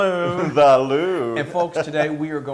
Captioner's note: laugh